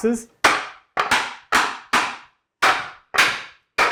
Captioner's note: woods smacking